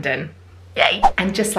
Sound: screen swooshing

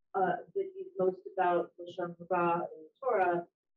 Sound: speaking in foreign language

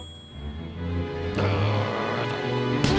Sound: grunting

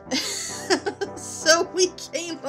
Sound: laughing

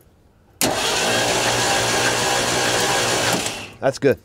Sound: engine whirring

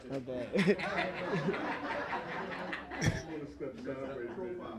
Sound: laughter

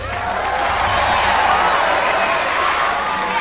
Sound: crowd cheers

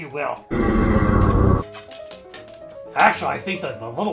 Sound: chorus of hellacious voices groan from under the visor

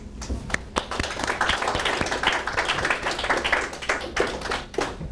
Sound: audience applauding

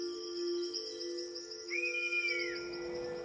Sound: kestrel screeches

